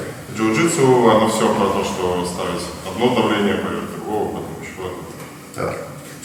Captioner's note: speaking in a foreign language